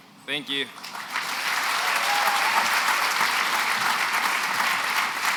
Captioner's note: applause